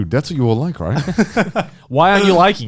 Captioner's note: Garnt laughing